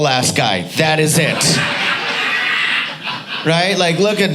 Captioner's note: audience laughing